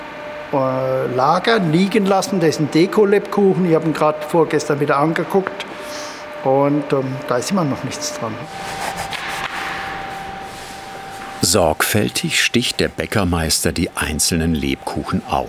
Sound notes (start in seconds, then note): 8.4 whirring, distant clicking